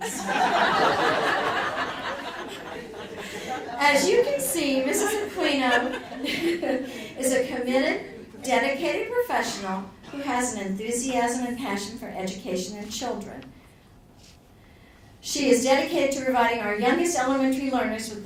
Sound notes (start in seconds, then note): 0.0 audience laughing; 4.7 laughs